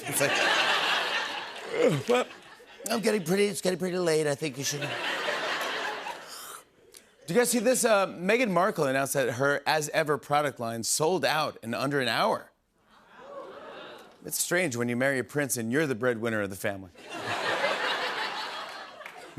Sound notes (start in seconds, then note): 0.0 laughter; 2.7 as Trump; 4.6 laughter; 6.4 normal voice; 12.9 audience exclaims; 17.0 laughter